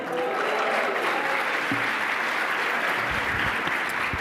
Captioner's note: applause